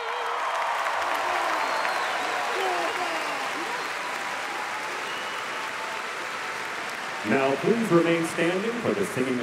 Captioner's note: applause